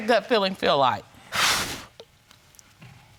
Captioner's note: exhales